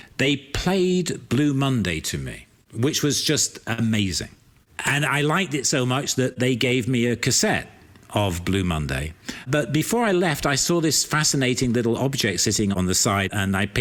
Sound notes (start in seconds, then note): none